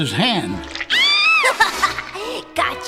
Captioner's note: screams